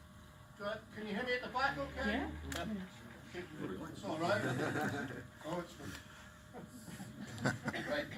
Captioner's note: chatter over the use of a mic with laughter